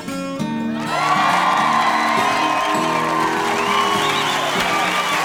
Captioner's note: guitar music; audience cheering